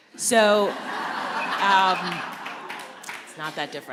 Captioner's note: laughter